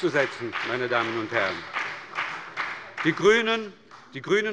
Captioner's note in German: Beifall bei der SPD und der FDP